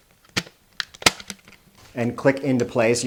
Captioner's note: battery clicks into place